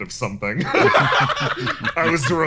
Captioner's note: laughs